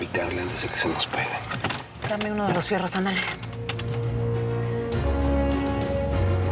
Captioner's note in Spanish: ruido al buscar armas